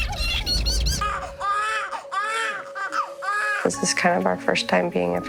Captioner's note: crying